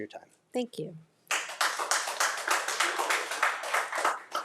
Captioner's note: crowd applauding